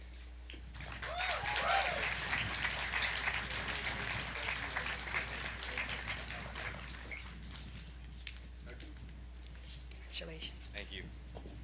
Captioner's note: applause